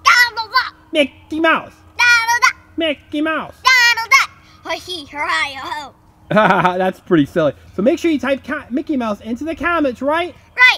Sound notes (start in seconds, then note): 1.0 voiceover; 6.3 laughs; 7.3 voiceover